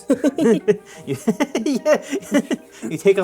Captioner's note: laughter